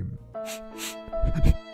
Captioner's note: sniff